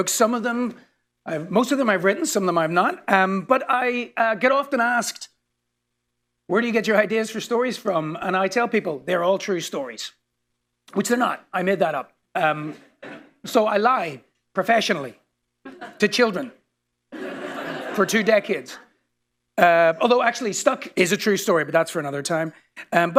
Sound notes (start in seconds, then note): 17.1 laughter